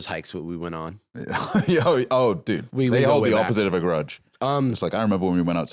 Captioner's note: laughs